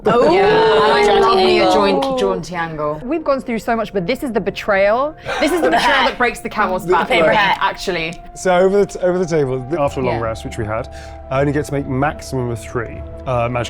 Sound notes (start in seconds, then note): 5.2 chuckling